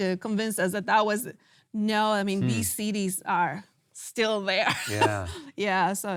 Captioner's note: laughs